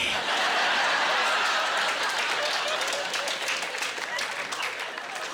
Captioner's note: laughing